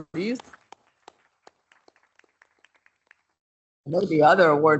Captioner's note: participants applauding